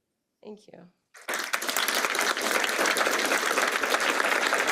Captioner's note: applause